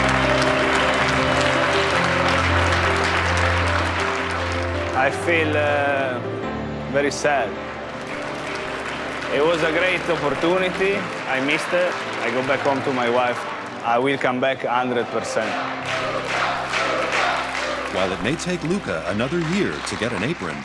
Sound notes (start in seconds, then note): 14.9 As pessoas gritando "Luca"